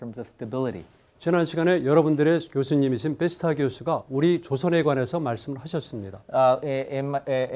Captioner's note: speaking in Korean